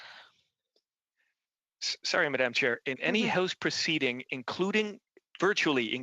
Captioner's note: laughter